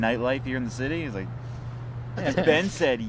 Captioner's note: both laughing